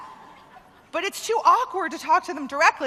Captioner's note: laughter